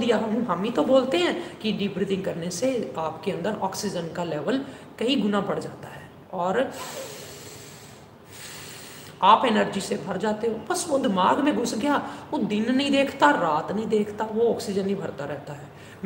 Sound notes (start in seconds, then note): 6.8 deep Breathing